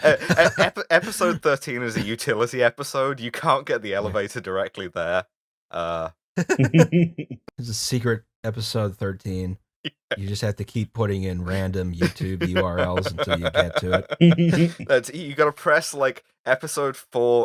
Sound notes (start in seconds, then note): 0.0 laughter; 6.4 laughter; 12.0 laughter